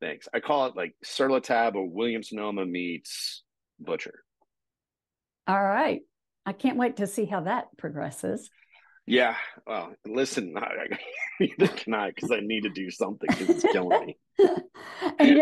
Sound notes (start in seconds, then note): 10.4 chuckling; 14.4 laughing